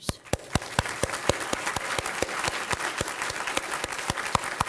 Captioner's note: applause